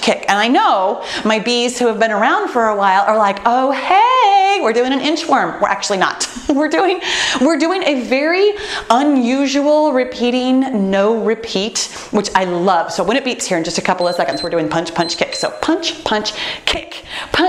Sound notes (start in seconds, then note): 13.9 timer beeps